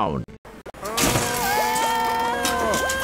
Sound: screaming; splashing water

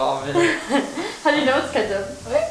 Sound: laughing

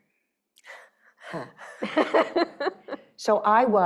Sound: laughing

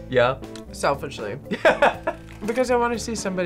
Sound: laughs

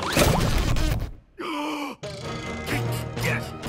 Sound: gasps; grunting

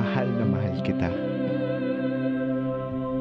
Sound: man speaks Filipino

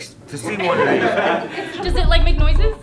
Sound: all laugh

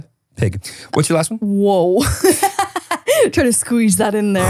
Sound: laughing

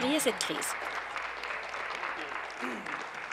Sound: applause

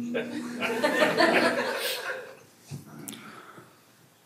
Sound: everyone laughs

